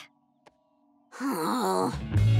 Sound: sighing

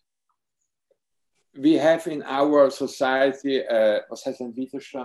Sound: speaks foreign language

